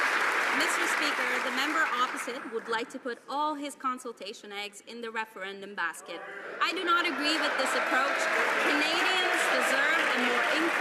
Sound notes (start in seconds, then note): 3.2 some Applause